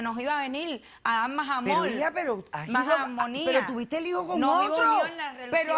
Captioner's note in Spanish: Hablan al unísono